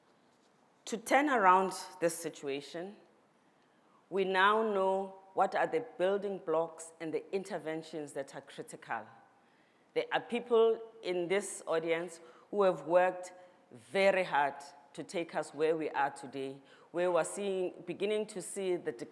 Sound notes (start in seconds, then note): none